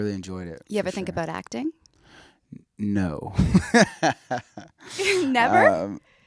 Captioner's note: laughs